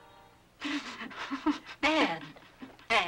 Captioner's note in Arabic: آن تبكي